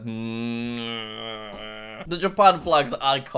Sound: groans

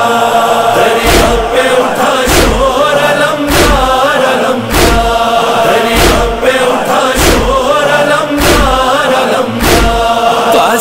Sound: chanting

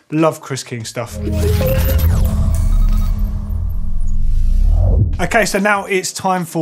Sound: bright electronic sounds

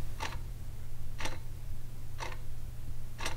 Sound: clock ticking

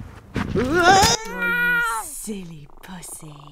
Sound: grunts; cat meows

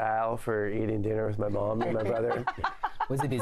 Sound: laughter

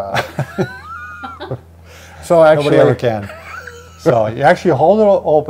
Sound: laughs

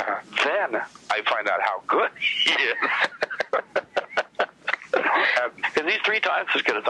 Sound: laughs

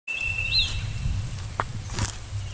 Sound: footsteps

